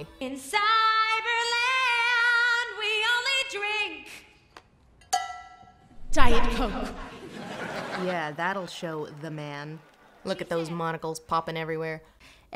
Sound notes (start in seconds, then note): 5.1 cowbell; 6.4 audience chuckles